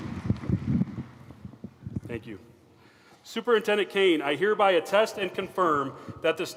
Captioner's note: applause